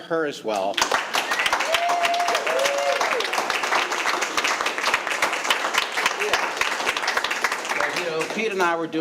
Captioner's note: all applauding and cheering